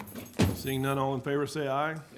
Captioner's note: object bangs